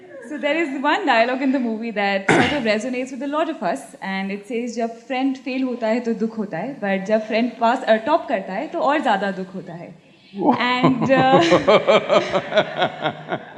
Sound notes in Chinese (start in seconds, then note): 4.3 印地語對白; 10.4 Sadhguru laughs